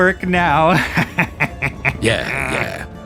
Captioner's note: laughs